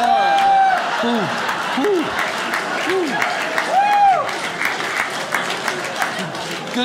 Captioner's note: imitates labored breathing